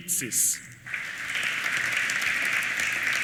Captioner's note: applause